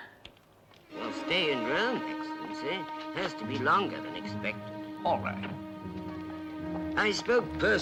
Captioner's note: spoken English